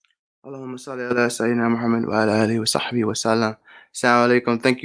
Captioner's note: speaking in a foreign language